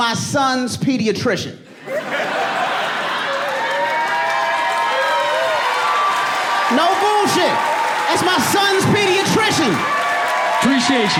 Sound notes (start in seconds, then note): 1.7 audience laughing; 3.8 cheering and applauding